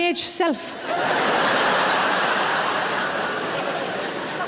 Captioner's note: audience laughs